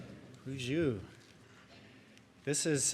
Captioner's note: speaks in native language